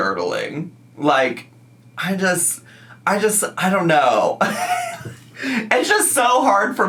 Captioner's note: laughs